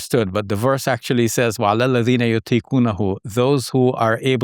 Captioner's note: speaking in foreign language